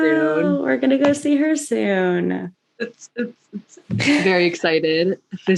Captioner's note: jersey shore party noise; laughs